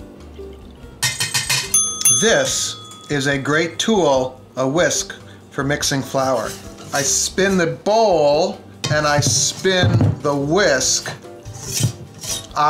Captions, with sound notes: (clanging) (dinging) This is a great tool, a whisk for mixing flour. I spin the bowl and I spin the whisk (scraping)